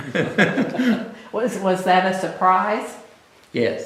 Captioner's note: laughter